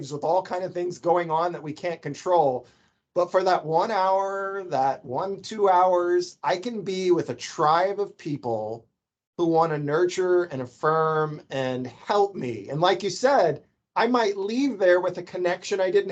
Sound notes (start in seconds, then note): none